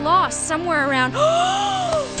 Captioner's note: gasp